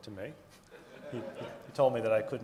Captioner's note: audience laughing